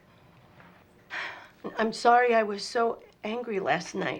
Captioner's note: sighs